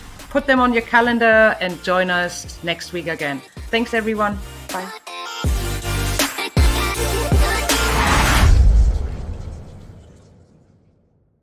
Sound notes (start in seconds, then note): 5.4 show theme music; 7.4 air whooshes